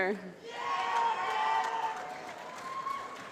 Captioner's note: applause